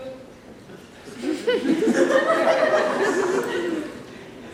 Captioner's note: laughter